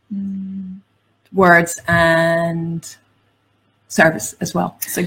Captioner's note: none